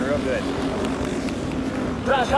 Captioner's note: claps